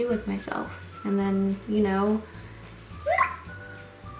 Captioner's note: tumblr message sound